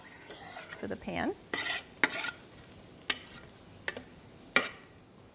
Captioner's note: pan sizzles